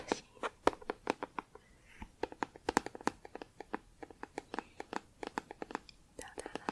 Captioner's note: tapping on plastic